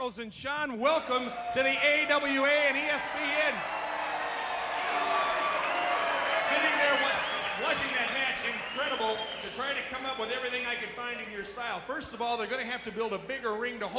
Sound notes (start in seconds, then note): 3.8 audience cheering and clapping